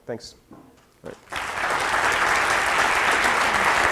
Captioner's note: applause